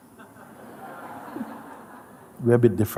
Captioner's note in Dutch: gelach